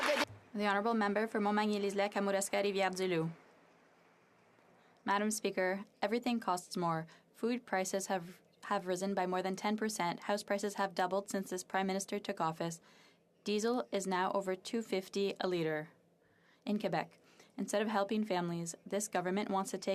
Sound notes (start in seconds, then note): 2.5 some Applause